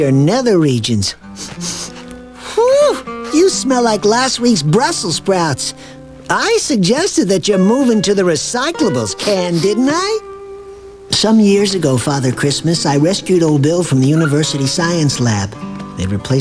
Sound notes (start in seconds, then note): 1.3 sniff sniff